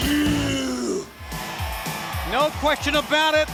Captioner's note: upbeat music; audience cheers